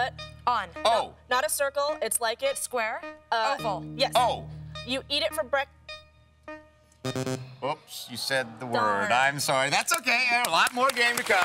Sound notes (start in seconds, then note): 7.0 buzzer